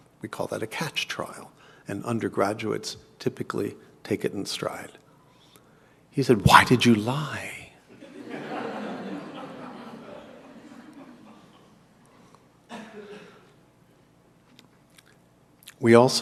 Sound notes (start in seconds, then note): 7.1 cough; 8.2 laugh